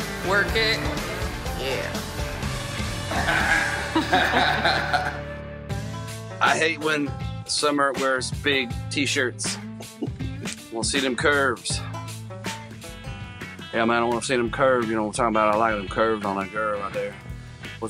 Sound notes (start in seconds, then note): 3.1 laugh